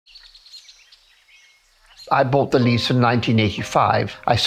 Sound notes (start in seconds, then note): 0.1 birds calling; 2.0 relaxing music